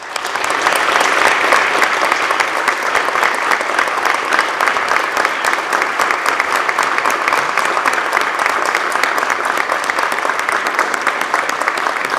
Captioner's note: applause